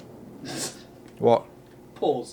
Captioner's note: snickers